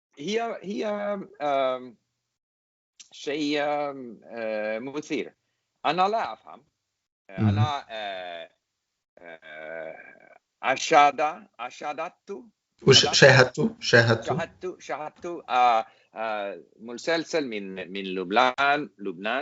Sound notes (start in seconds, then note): 0.0 speak in English